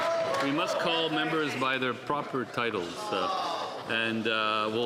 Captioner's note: some Applause